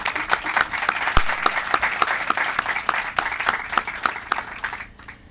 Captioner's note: applause